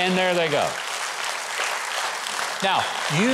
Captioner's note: audience applauds